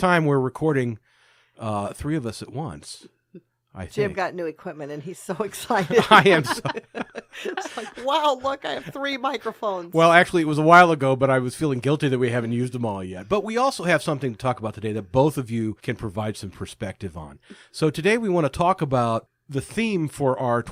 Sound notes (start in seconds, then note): 5.7 trails off as they laugh; 9.4 all laughing